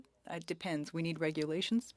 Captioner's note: speaking French